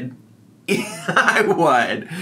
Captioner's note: laughs